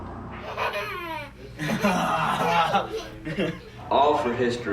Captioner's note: laughing